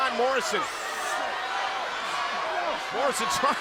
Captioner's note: crowd yelling